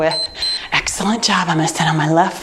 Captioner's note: timer beeps